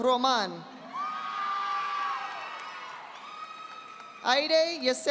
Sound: audience applauding

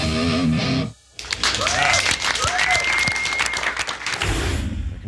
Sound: audience applauding

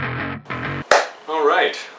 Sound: clap

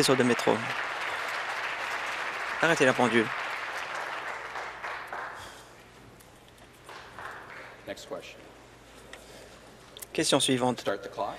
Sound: applause

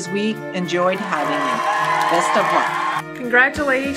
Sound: applause

